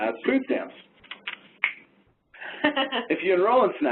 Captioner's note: fingers snap